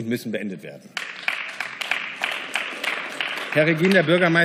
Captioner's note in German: Beifall